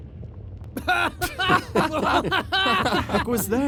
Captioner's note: all three begin laughing